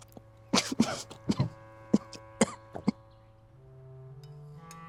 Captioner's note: coughing